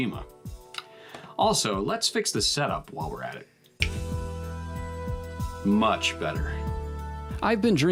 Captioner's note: snap